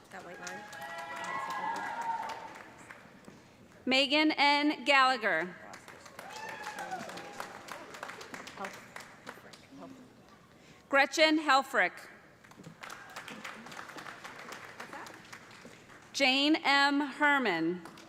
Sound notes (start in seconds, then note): 0.1 cheers and applause; 6.0 cheers and applause; 12.4 applause